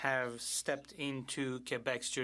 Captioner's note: speaking French